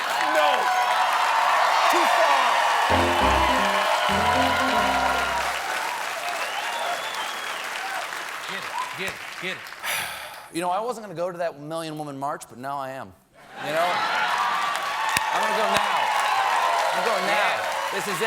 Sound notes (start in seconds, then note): 0.0 applause; 9.9 applause; 9.9 laughter